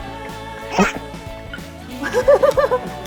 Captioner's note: umph!